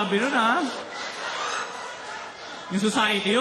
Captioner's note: laughter